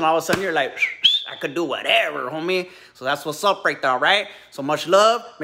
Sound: whistles

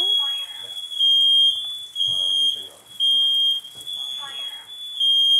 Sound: fire alarm beeping

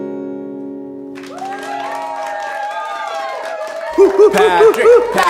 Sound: audience cheers

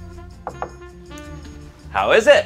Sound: knocking on door

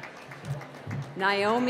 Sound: applause

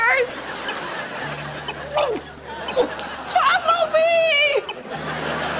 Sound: gagging

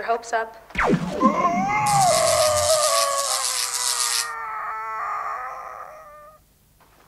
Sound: very long and drawn out dying scream

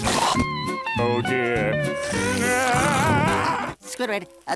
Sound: screaming

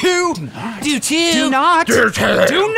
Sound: growling

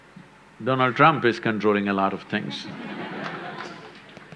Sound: laughter

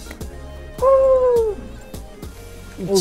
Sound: shouts in joy

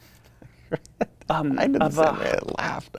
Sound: laughs

